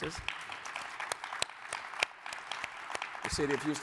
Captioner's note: audience applauding